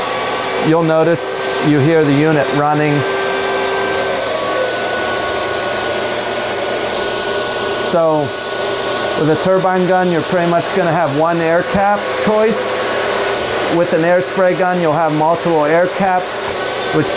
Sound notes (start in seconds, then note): 2.9 air spraying loudly